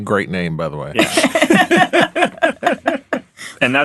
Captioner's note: all laughing